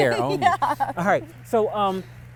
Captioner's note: laughs